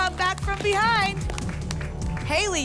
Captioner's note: applause and cheering